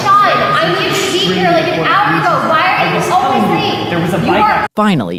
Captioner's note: arguing